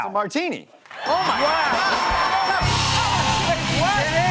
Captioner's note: cheers and applause